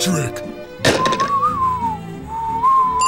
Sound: whistling

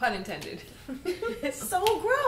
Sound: laughter

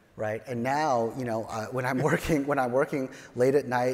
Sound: chuckles

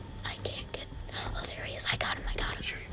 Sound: whispering

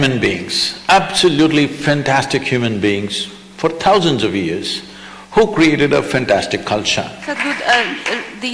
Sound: applause

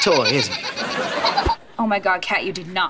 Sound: laughing

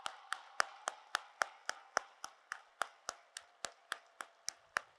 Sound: applause

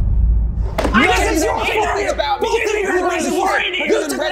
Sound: all shouting

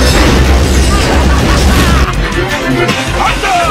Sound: laughs

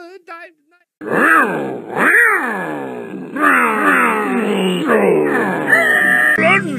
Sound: sick car noises

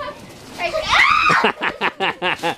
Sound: children laughing; screams; laughs

